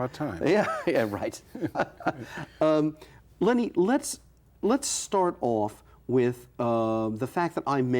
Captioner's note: laughing